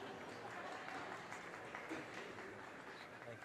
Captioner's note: audience cheers and applause